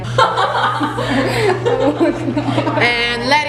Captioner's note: contestants laughing